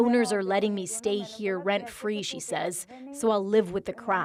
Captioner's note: speaking alternate language